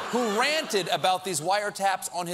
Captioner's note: laughter